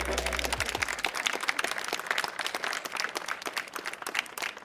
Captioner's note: applause